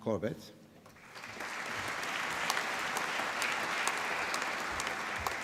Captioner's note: applause